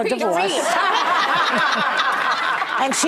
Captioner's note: laughing